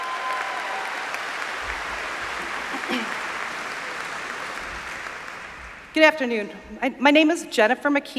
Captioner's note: applause